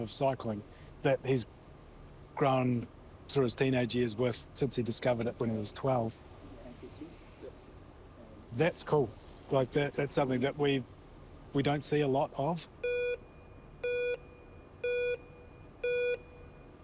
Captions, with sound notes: that he's grown through his teenage years with, since he discovered it when he was 12. That's cool. Like, that's something that we don't see a lot of. (TIMER BEEPS STEADILY)